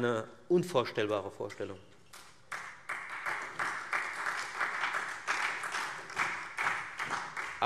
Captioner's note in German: Beifall Freie Demokraten